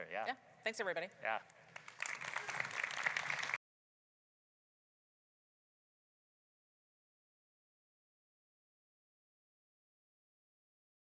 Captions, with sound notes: - Yeah, thanks everybody. (audience clapping)